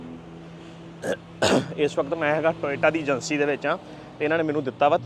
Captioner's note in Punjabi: ਗਲਾ ਸਾਫ਼ ਕਰਨ ਦੀ ਅਵਾਜ਼